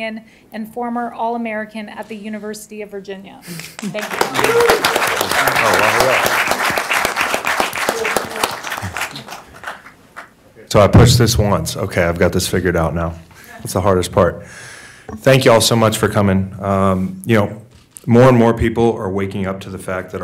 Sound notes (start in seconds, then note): 3.8 audience applauding